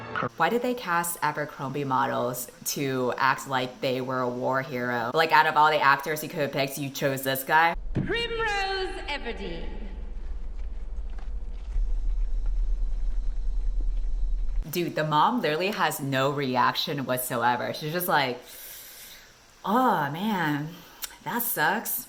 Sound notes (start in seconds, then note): 18.4 𝘴𝘩𝘢𝘳𝘱 𝘪𝘯𝘩𝘢𝘭𝘦